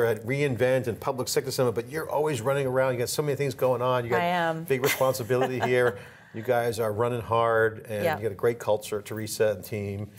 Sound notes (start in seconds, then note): 4.8 laughs